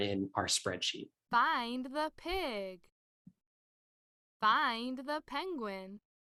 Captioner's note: experiment audio plays "Find the pig!"